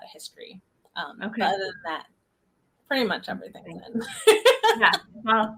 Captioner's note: laughs